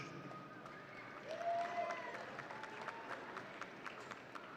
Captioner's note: audience cheering